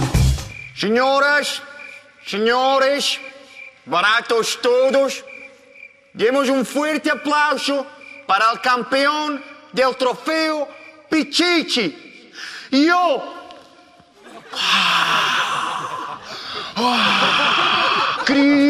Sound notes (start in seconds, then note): 14.2 crits d'ovació